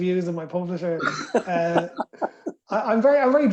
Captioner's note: laughter